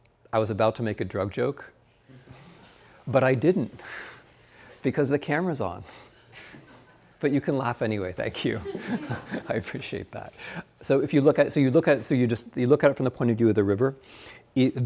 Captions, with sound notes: I was about to make a drug joke, but I didn't because the camera's on, but you can laugh anyway, thank you. (student laughing) I appreciate that. So you just look at it from the point of view of the river.